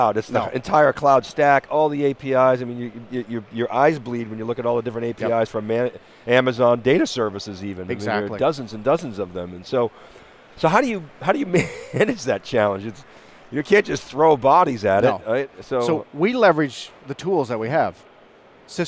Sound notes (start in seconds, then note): 11.3 chuckles